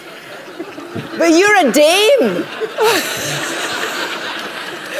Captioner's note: laughter